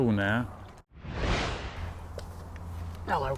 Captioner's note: whooshing